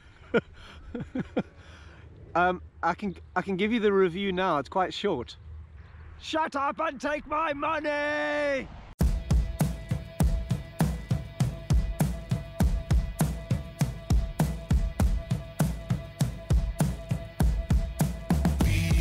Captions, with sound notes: (laughs) Um I can, I can give you the review now. It's quite short. (shouting) Shut up and take my money! (energetic music)